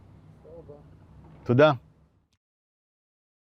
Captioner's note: hebrew